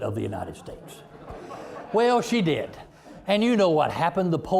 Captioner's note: audience laughing